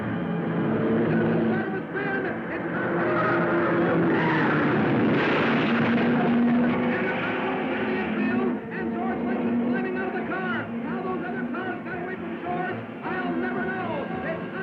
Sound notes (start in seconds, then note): 0.0 cars revving; 0.0 dramatic music; 2.8 tires squealing; 5.0 car crashing